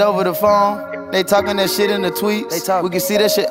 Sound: they talk

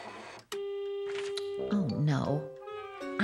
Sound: buzzing

